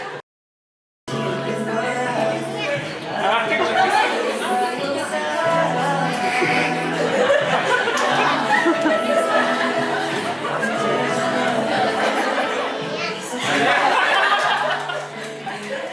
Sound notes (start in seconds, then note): 6.2 tears